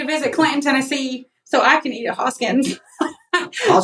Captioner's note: laugh